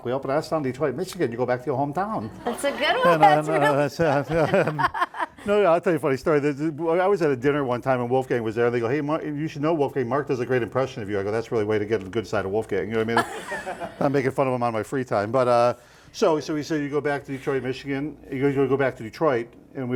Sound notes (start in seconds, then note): 2.2 laughing